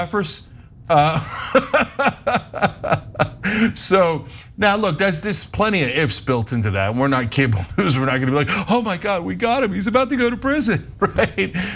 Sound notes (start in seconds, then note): 0.9 laugh